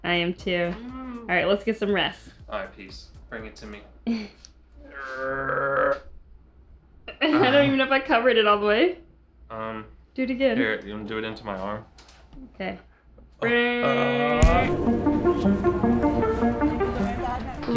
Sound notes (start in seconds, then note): 4.8 groans; 7.2 chuckles; 14.4 upbeat electronic music